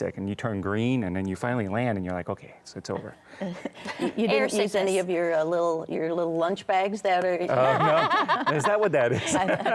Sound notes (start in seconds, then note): 3.3 chuckles; 7.5 laughs